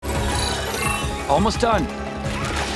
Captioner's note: electronic noises play